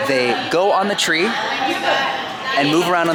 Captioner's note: people chattering